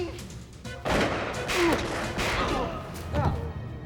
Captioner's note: gun shots